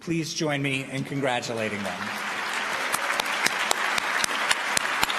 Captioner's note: applause